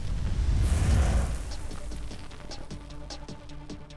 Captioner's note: fire burning